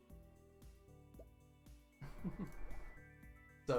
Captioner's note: chuckles